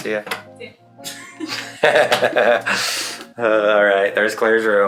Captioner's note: both laughing